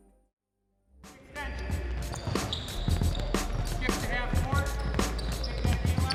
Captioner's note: thumping music; chattering and squeaking